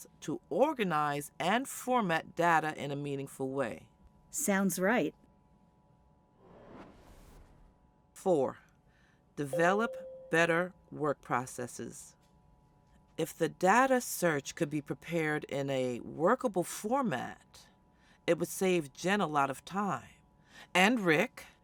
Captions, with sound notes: to organize and format data in a meaningful way. Sounds right. [WOOSH] Four, develop better work processes. If the data search could be prepared in a workable format, it would save Jenn a lot of time. And Rick.